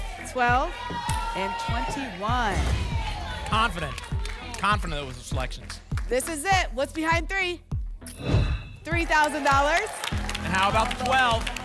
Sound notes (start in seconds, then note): 2.3 thump; 2.3 whoosh; 8.1 whoosh